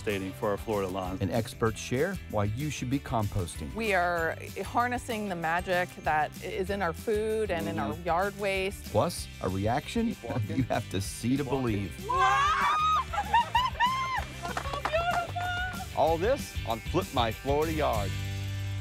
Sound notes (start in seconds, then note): 12.2 laughs; 13.5 crew applauding